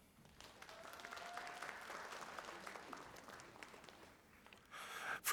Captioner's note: audience applauding